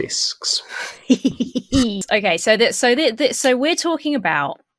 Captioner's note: laughs